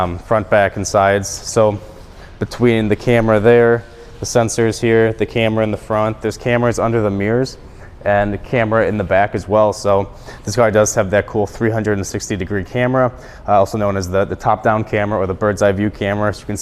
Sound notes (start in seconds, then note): none